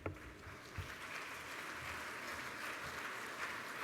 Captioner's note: applause